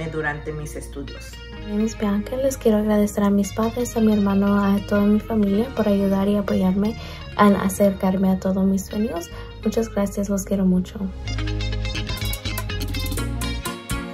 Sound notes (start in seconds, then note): 1.7 speaks in foreign language; 11.4 upbeat music